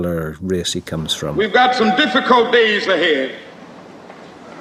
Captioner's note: recording of Martin Luther King, Jr. speech